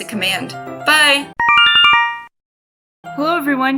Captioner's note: Yume Nikki instructions sound